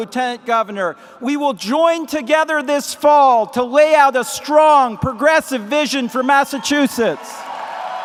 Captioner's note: applause